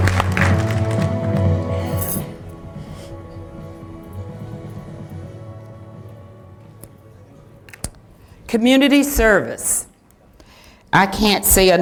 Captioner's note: applause